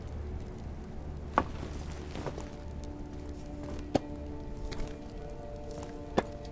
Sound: staff thuds on the ground

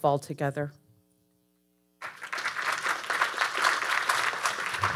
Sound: audience applauding

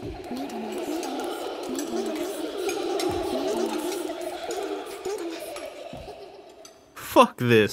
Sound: whispers of "Maidenless" and giggling

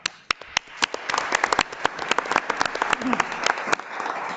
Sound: audience claps

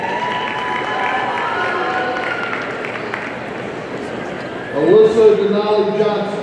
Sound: audience cheering and applauding

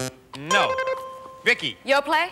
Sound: bell buzzes; buzzer rings

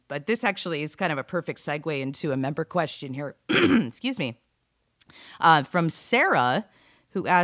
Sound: clears through

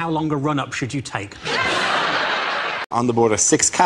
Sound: audience laughs

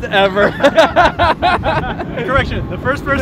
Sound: laughing

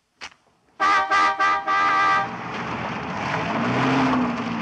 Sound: horn honking

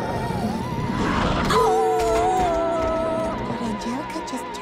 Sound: growling; howling

